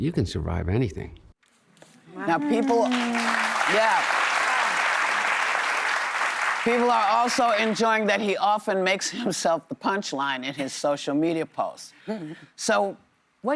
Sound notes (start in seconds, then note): 5.8 applause